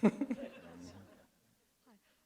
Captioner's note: laughter